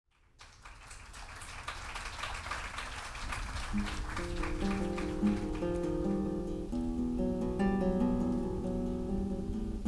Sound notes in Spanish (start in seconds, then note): 3.0 aplausos